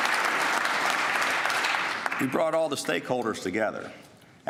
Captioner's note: applause